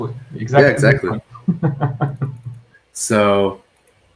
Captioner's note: laughs